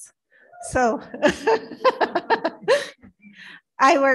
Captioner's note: laughs